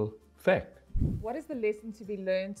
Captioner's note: air whooshing